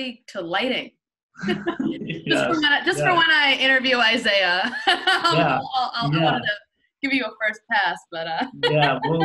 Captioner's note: laughs